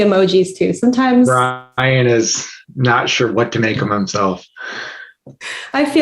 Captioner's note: laughs